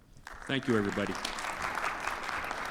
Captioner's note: audience applauds